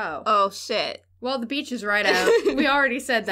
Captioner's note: laughter